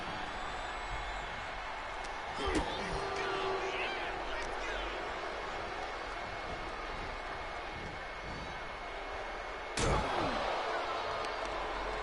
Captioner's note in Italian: Applauso